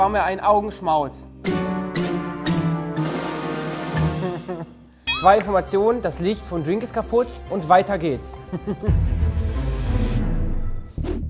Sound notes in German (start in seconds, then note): 1.5 Dramatische Musik; 4.2 Lachen; 8.5 Lachen; 8.5 Spannungsvolle Musik